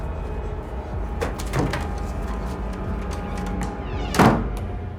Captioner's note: hands thudding; door slamming